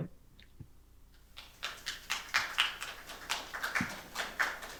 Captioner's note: applause